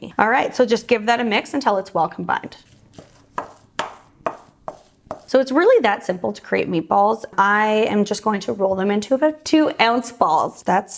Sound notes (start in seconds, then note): 3.3 pounding sound